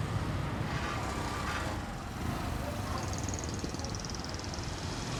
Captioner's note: street noise